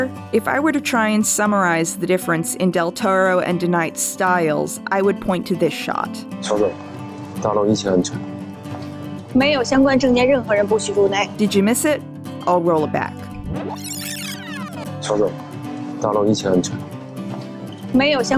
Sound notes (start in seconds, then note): 13.4 rewinding sounds